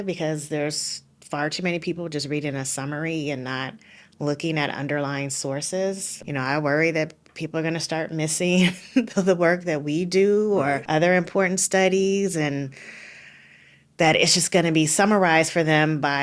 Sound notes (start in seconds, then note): 10.6 laughing